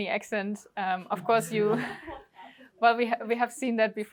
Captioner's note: laughter